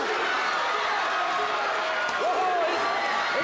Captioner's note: audience cheers